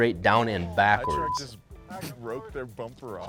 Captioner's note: beep